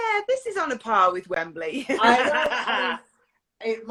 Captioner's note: laughs